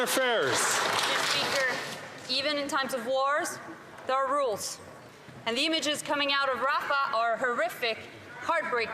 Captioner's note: some Applause